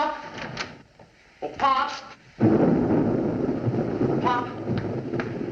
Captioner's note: thunderclap